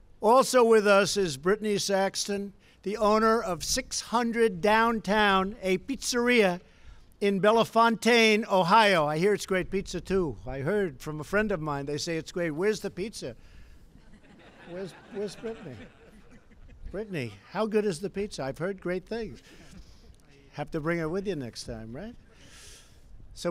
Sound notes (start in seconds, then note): 13.9 laughter